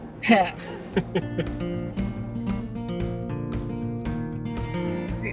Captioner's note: chuckling